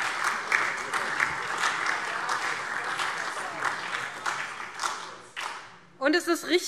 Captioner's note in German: Beifall SPD und DIE LINKE - Widerspruch AfD und Freie Demokraten